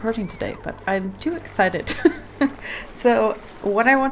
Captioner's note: laughs